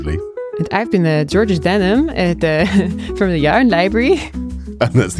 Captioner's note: in dutch accent